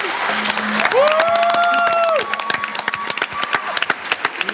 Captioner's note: cheering